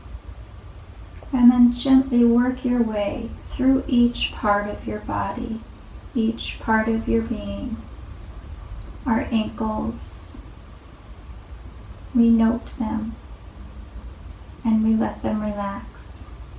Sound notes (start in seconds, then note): none